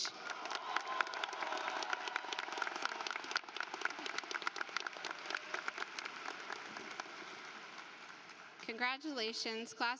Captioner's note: applause